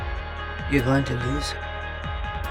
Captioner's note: voiceover